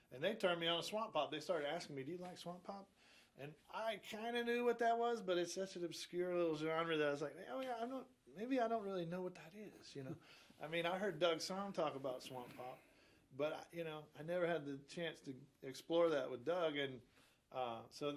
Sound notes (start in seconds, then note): 10.3 chuckles